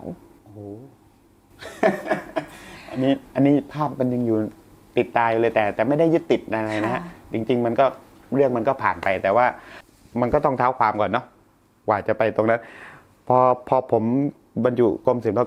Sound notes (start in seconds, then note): 1.6 laughs